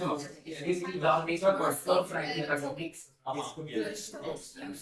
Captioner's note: people chattering